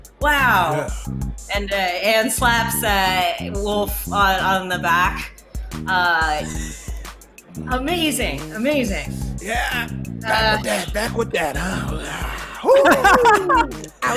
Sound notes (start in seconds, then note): 12.0 mumbles; 12.4 laughs; 12.6 howls